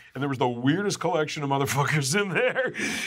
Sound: laughs

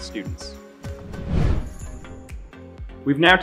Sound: swooshing noise

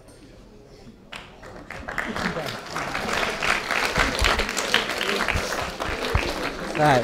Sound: claps

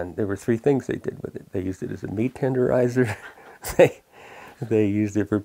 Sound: laughs

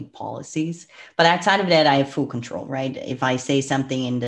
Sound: breath

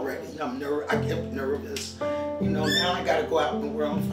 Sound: parakeet screeches

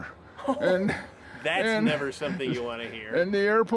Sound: laughs

